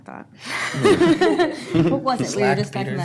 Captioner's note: laughs